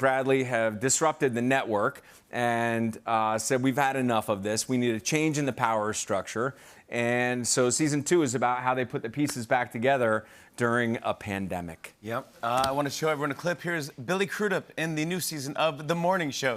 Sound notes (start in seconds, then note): none